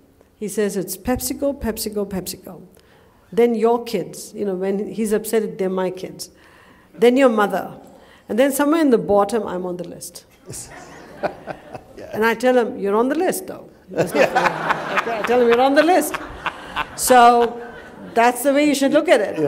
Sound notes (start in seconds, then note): 10.3 laughter